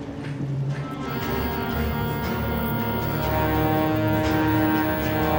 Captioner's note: can spraying